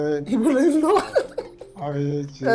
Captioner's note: laughs